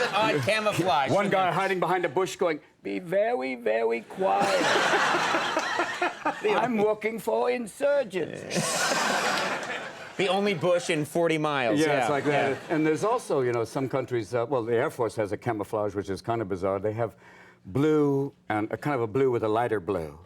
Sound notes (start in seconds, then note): 4.2 audience and Conan laugh; 8.5 audience laughs